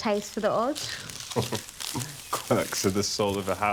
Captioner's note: Nikolai chuckles